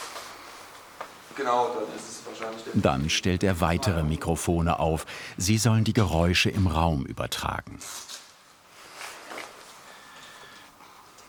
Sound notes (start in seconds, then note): 7.8 rustling